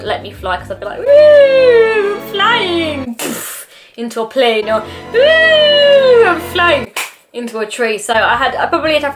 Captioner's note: claps